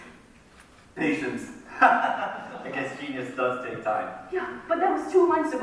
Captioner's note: laughs